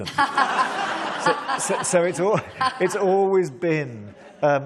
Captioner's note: laughter